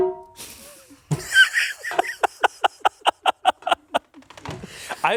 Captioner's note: laughs